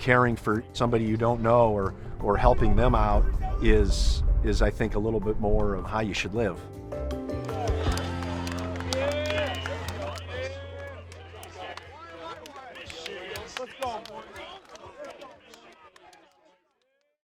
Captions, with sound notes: caring for somebody you don't know or helping them out is I think a little bit more of how you should live. (upbeat music) (players celebrating)